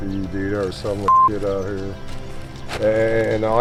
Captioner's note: beep